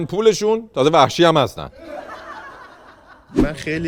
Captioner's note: laughter